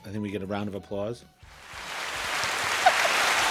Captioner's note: round of Applause Plays